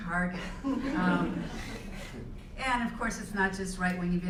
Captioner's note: laugh